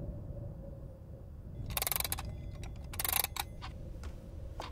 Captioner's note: clock clattering; clock ticking